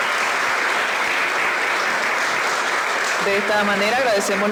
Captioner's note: applause